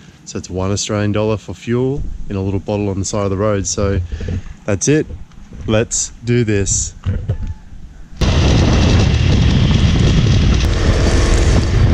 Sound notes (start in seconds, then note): 8.3 wind roaring